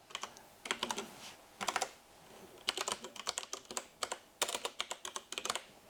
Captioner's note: keyboard clicking